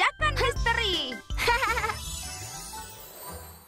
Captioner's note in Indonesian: Pinkfong tertawa kecil